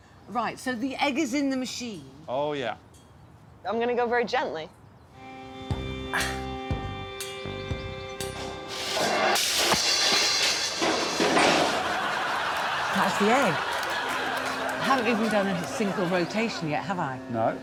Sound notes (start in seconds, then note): 6.4 grunting softly; 8.7 cymbal crashing